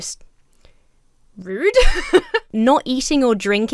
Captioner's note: laughs